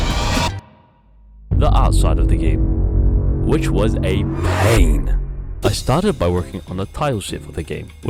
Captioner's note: dramitc Sound effect